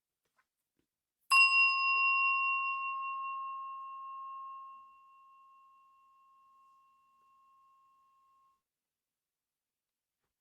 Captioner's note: bell